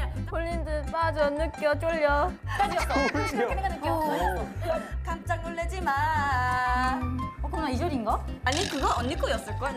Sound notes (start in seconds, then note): 2.6 laughing at her translation